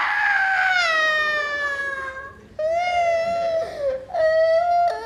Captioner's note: crying with sadness